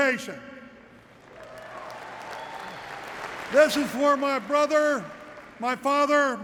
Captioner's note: applause